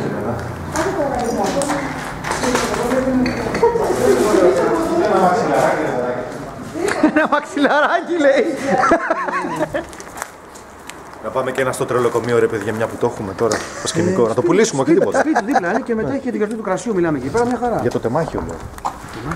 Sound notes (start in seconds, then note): 8.4 laughs